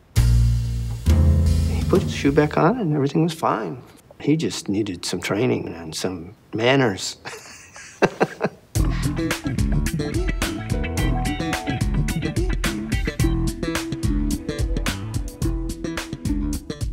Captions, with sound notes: He put his shoe back on and everything was fine. He just needed some training and some manners. (Laughs)